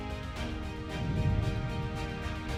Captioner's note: transition whooshing; gentle music continues